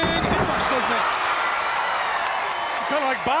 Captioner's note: crowd chattering